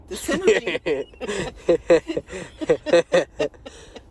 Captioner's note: both laugh